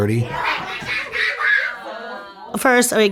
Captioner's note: chatter, laughter